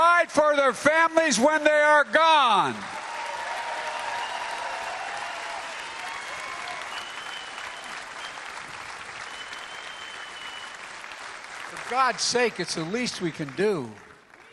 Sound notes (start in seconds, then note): 2.8 applause; 7.9 cheering